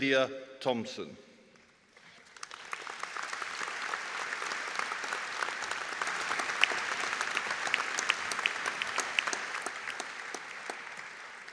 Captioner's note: audience Applause